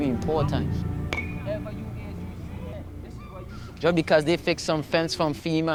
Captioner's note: baseball bat pings